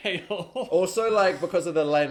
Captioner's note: chuckling